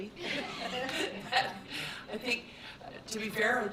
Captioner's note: board laughs